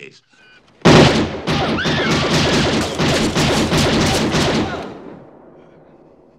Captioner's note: gunshots